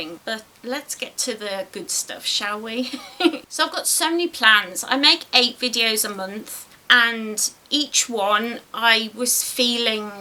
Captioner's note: giggles